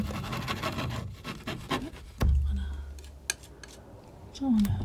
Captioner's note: scratching